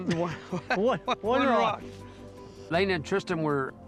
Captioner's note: laughter